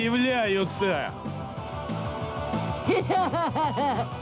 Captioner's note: laughs